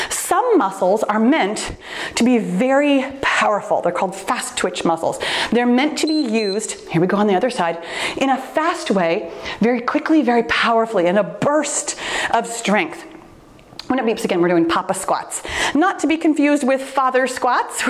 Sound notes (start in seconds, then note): 6.0 timer beeps